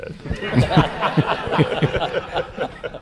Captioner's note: laughter